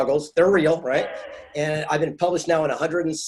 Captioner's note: laughing